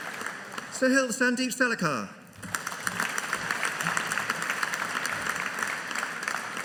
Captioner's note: audience applauding